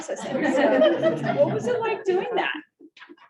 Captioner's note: all laughing